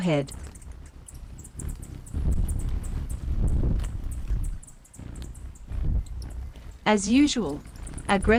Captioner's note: birds singing and chirping; wind blowing